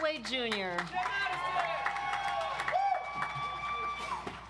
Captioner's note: audience applauds